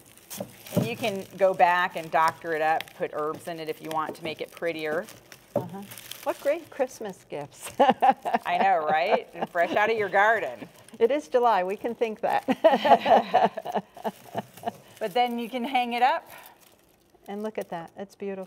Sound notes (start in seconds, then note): 7.6 laughs; 12.5 both laughing